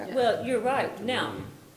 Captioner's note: participants chatting